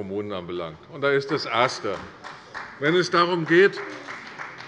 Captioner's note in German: Beifall bei der CDU